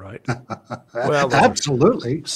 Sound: laughs

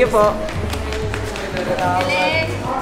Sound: claps

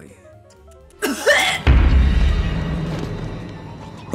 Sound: coughs

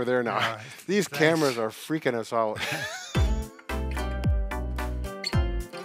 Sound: laughs; bright upbeat music

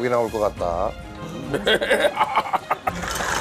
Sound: laughs

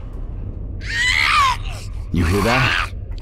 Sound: female zombie screech

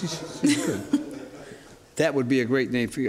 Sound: laughter

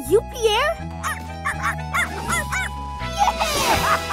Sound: barking

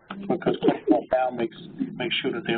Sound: chirping sound interrupts

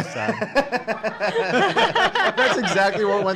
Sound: laughs

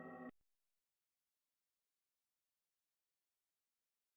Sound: silence

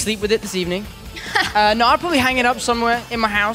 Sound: laughs

